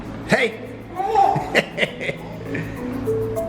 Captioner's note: laughs; gentle upbeat music